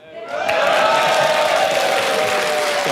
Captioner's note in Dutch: gejuich en applaus